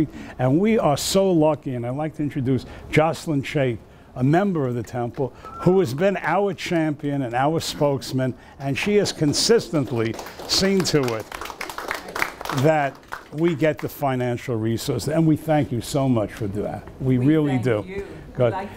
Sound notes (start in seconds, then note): 9.6 audience applause